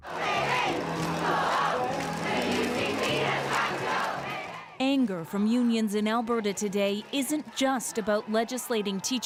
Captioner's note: chanting